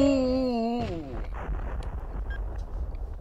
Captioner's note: kabooooom!!!